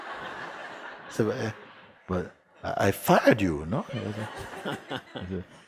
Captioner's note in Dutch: Gelach